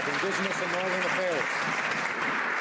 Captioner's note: some Applause